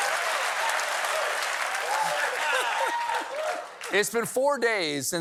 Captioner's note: cheers and applause